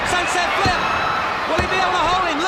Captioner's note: hands thudding; body thudding